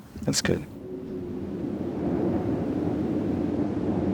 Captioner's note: air whooshes